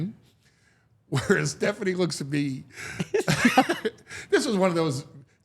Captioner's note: laughs